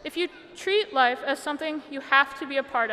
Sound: none

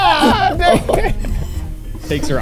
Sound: laughing

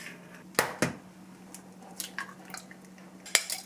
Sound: breaking an egg

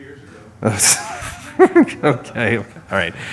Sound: laughter

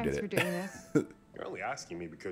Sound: laugh

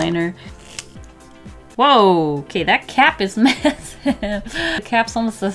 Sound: laughs

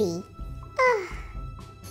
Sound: ugh

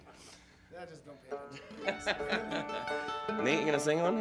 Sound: laughter

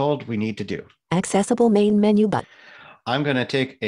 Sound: automated Voice

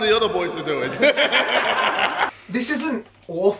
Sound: laughing

